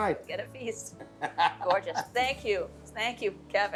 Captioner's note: laughs